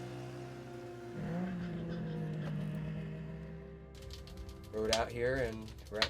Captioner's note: snowmobile buzzing